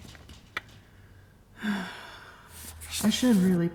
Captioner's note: dramatic sigh